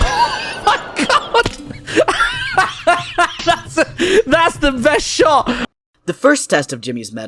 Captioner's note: laughing